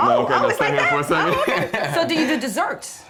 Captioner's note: chuckles